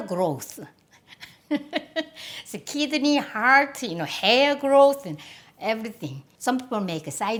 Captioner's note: laughs